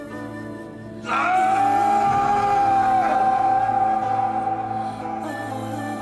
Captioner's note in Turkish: Bağırma sesi